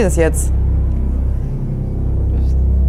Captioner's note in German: Finsteres Dröhnen